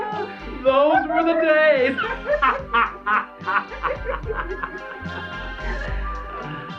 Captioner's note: laughs